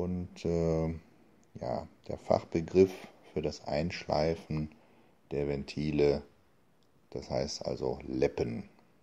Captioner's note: in German